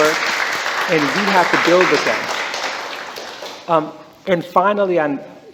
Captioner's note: applause